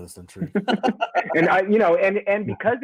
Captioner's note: soft laughter